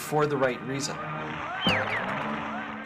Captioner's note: music ends, applause